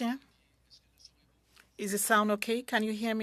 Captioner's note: speaking French